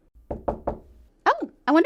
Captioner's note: knock at the door